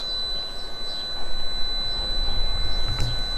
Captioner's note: beep